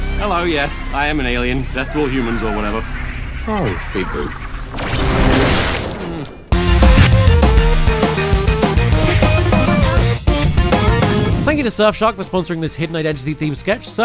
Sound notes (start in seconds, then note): 4.3 laser blast and splatter